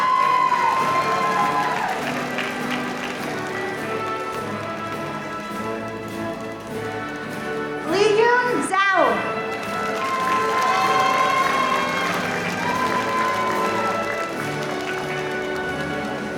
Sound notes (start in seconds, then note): 9.4 audience cheering; 13.1 audience applauding